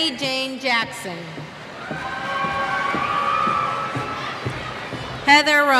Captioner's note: cheers